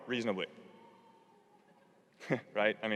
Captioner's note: laugh